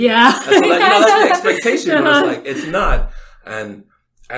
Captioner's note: laughs